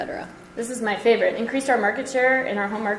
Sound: voiceover

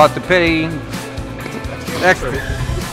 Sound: laughing

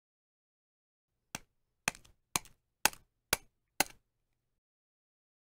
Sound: sound of breaking an egg on a pan

